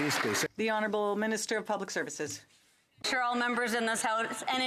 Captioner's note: some Applause